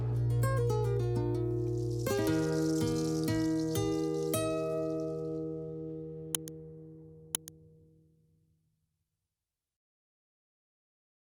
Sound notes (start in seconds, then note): 0.2 uplifting music; 7.3 mouse clicking